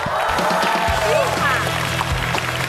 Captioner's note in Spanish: Aplaudir